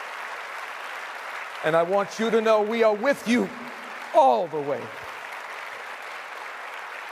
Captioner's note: applause